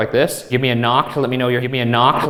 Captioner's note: mysterious breathing